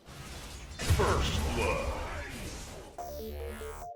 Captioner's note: game audio